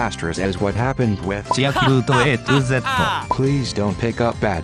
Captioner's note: ha ha ha ha!!